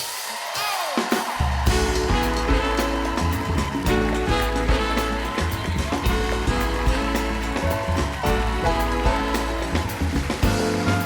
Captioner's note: cheers and applause; band playing; cheers and applause